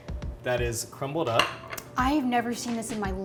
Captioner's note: plate clangs